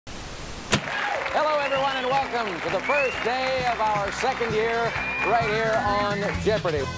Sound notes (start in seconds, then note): 0.1 static hisses; 0.8 audience cheers